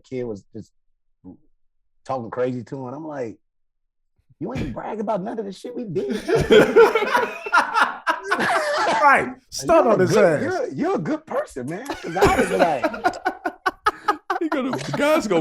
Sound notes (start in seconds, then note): 6.0 hosts laughing; 11.8 Rel laughing